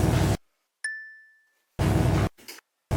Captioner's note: bell dings; electric buzzing